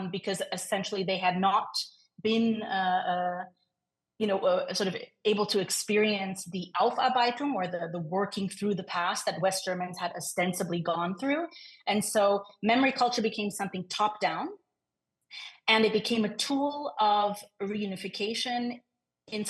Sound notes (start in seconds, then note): 6.4 speaks in foreign language